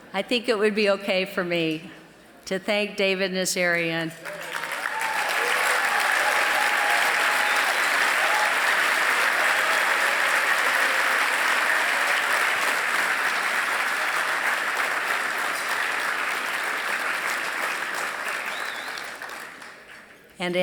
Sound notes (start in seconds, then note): 4.8 applause